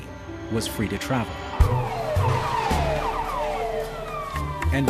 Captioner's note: sirens wailing